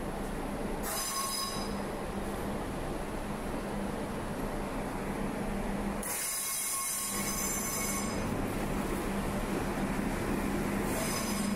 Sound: train screeches

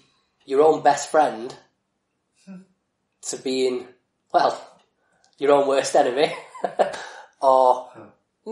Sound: laughs

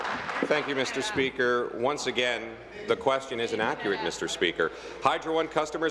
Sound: applause

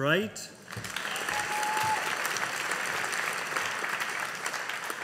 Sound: audience applauding

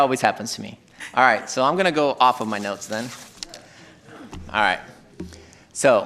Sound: laughing

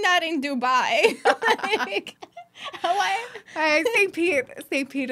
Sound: laughing

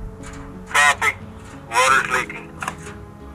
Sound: man On Radio

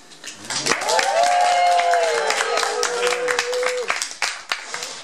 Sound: applause

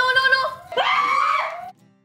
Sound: screaming

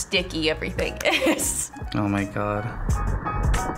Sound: chuckles

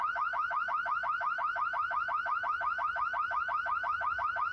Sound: car alarm blaring

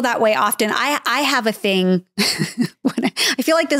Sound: chuckles

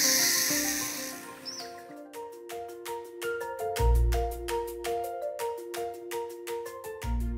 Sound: bright music; rooster crowing; bird chirping; gentle upbeat music

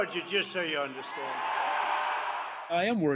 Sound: cheering and applause

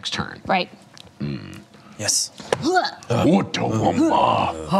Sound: grunt; grunting

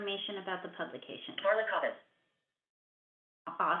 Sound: VoiceOver voice

